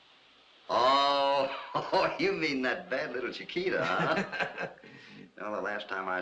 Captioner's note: chuckling